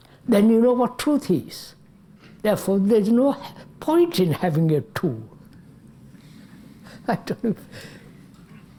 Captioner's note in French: Rires